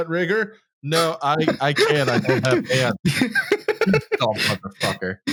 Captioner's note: laughs